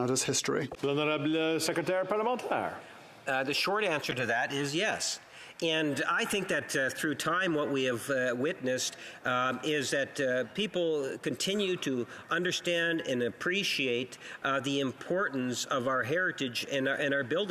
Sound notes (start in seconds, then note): 7.4 speaking French